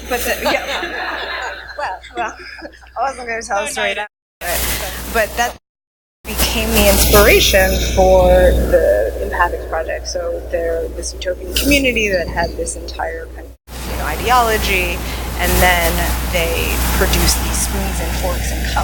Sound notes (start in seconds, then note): 0.0 laughing; 5.4 mic cuts out